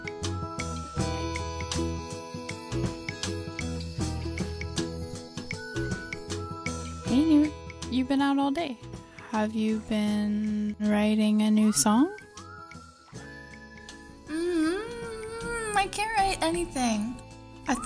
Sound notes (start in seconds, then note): 0.0 crickets chirping